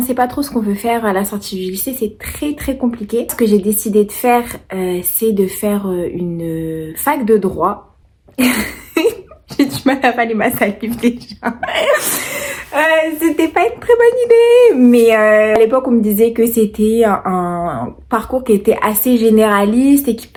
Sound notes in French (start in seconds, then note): 11.1 rires